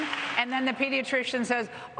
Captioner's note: applause